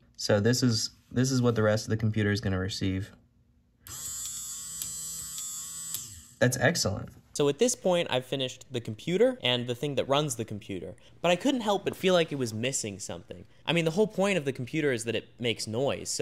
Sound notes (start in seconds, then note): 3.3 awesome headache-inducing whirring and clicking